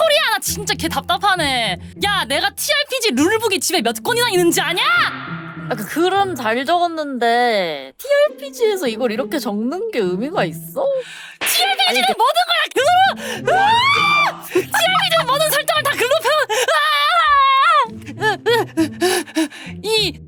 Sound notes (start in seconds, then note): 18.0 pant pant